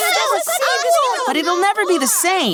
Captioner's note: kids exclaiming happily